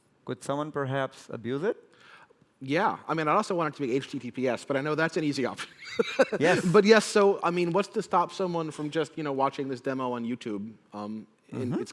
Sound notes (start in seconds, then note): 5.9 laughs